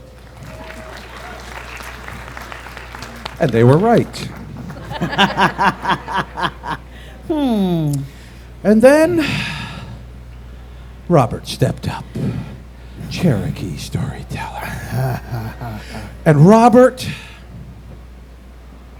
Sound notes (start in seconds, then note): 0.0 applause and cheers; 3.4 laughter